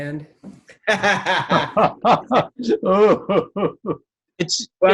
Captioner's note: Edgar laughing